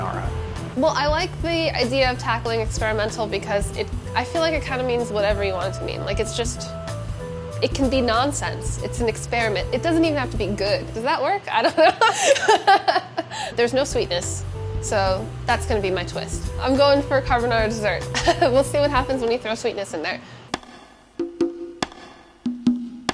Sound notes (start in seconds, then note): 11.8 laughing; 20.5 percussive music